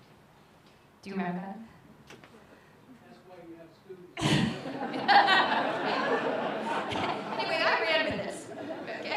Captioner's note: laughter